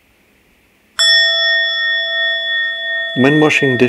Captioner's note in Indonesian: suara genta